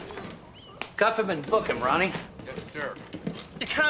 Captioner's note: laughing